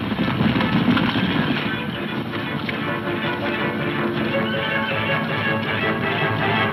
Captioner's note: hooves thundering; blows thudding; dramatic music